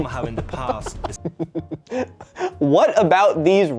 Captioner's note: devious giggling